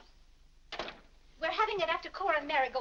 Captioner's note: door closes